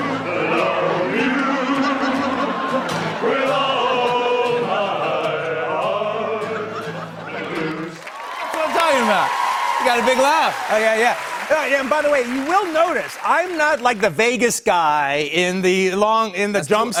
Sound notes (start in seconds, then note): 9.0 cheers and applause